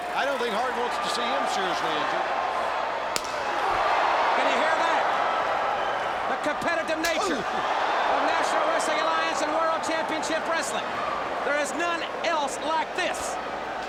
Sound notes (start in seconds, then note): 3.1 chop thuds